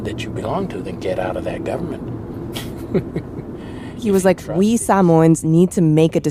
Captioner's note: laughs